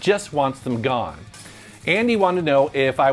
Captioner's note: graphics shattering